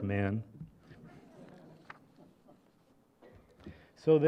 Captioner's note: laughter